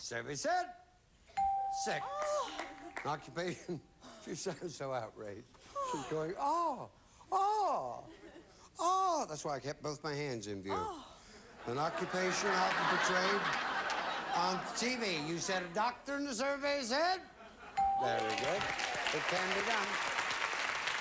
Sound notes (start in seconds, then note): 11.6 audience laughing; 18.0 audience applauding